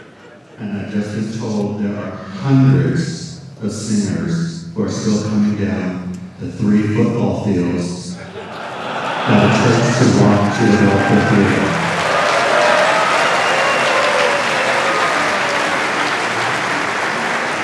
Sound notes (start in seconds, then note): 0.0 laughter; 12.6 cheers